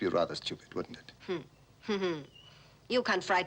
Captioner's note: Elissa chuckles